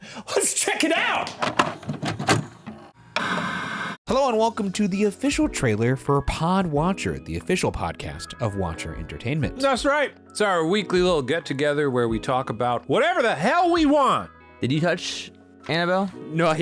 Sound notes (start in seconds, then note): 1.2 VHS tape rattles; 3.1 VHS static